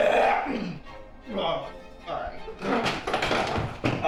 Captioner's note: puke sounds; classical music